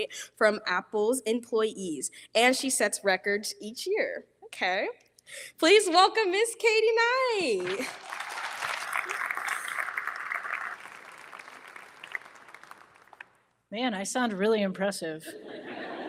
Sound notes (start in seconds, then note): 7.6 audience applauding